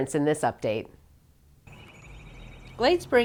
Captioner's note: birds chirping